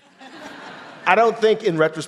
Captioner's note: audience laughing